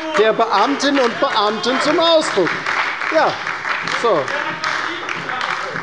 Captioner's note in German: Beifall bei der LINKEN und der SPD